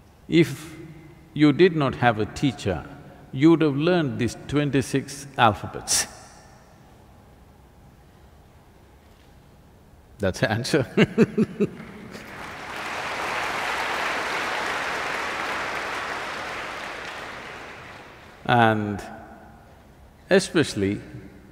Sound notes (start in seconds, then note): 14.3 laughs; 16.1 applause